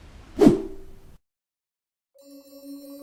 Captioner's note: air whooshing